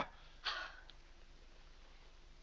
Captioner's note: Vinnie huffs